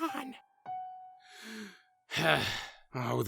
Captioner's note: nickel sighs